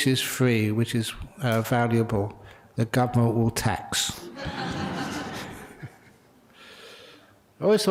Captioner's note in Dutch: lachen